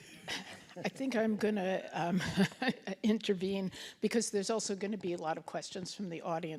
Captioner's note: laughs